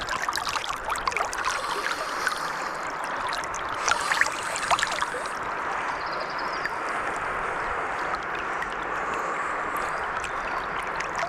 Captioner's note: water sounds